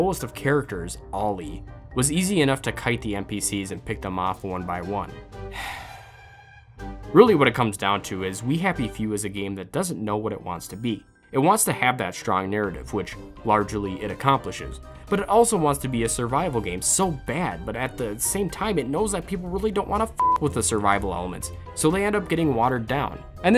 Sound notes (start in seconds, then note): 5.5 sigh